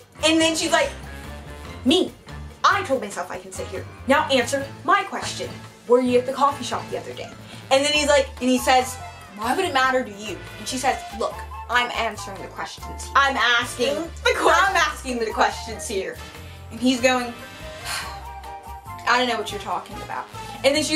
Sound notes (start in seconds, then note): 17.8 sigh